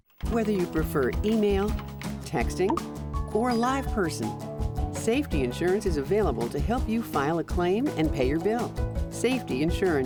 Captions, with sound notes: >> Whether you prefer email, texting... (cellphone chirps) (cellphone rings) ...or a live person, Safety Insurance is available to help you file a claim and pay your bill.